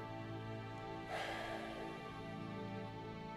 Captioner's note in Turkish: Nefes sesi